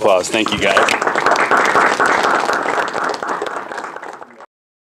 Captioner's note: audience applauds